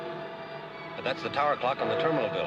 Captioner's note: clock chimes